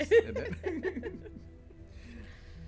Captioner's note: laughs